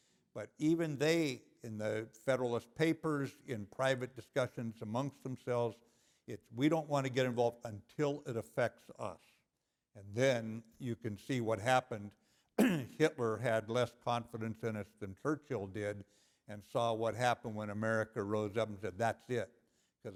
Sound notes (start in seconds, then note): 12.6 cough